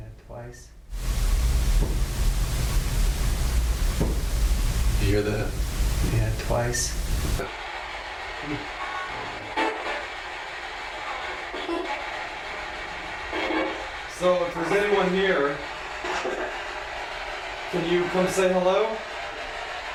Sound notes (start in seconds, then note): 8.2 static, radio changing frequencies